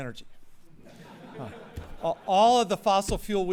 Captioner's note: laughter